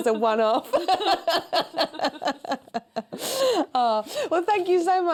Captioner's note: laughter